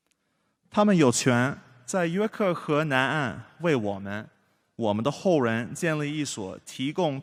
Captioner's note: speaking foreign language